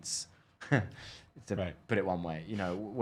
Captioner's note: chortle